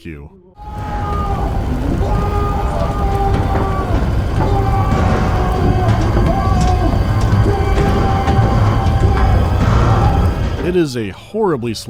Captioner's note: continuous screams of unbearable agony and thrashing against metal